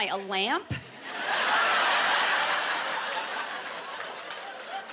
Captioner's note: laughter